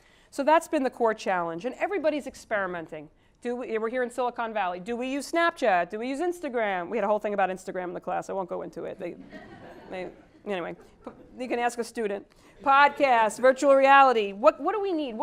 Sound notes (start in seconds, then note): 9.2 laugh